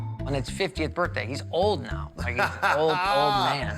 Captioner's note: Buddy chuckles